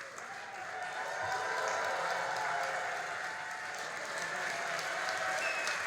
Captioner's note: all applauding and cheering